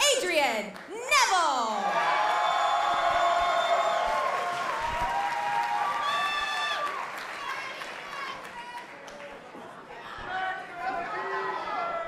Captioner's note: cheers and applause